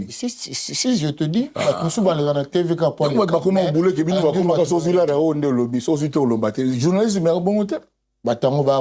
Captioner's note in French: raclement de gorge